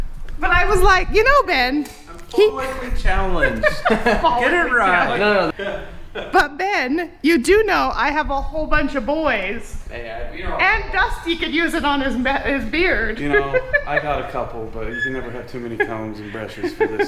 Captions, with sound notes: But, I was like you know Ben. keep quickly I'm folicly challenged, get it right. But Ben you do know I have a whole bunch of boys and Dusty could use it on his beard (laughing) You know I got a couple. But you can never have too many combs and brushes for this